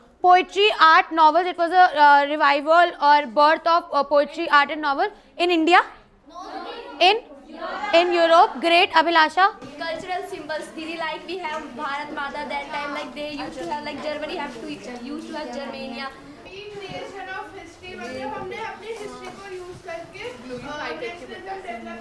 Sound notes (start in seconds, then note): 13.3 speaks foreign language; 16.7 speaks foreign language